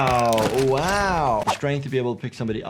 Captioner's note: bones cracking